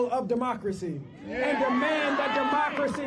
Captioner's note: crowd chanting